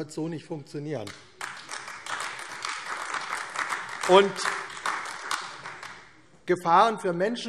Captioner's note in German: Beifall AfD